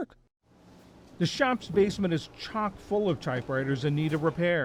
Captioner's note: voice-over